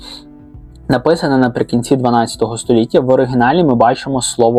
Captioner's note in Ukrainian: сопіння